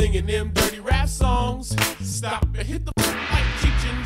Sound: gongs

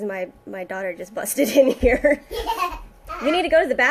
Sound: giggling; girl laughing

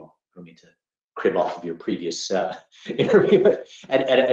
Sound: laugh

